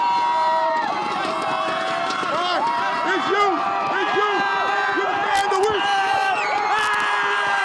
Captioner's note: applause